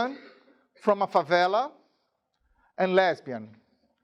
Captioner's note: speaking in a foreign language